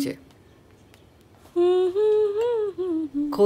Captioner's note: Humming